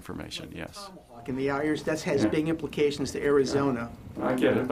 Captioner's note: speaking quickly